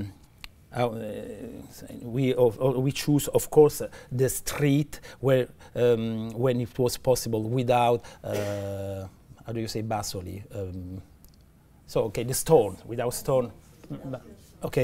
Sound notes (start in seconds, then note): 10.8 italian